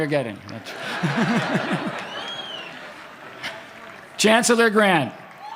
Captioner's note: laughter